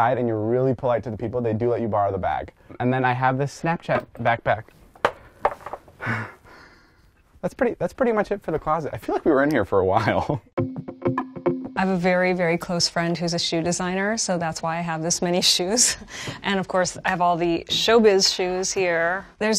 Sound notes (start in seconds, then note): 5.4 box falling; 6.0 laughs; 10.5 upbeat music